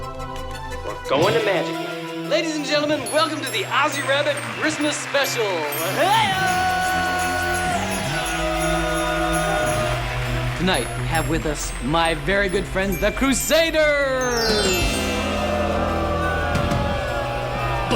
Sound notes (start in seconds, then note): 8.2 crowd; 14.6 audience boos